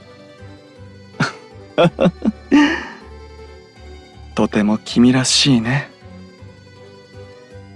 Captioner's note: laugh